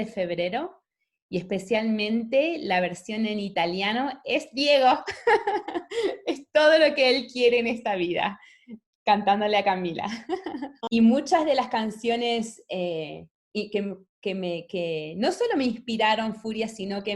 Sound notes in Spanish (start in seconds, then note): 5.0 risas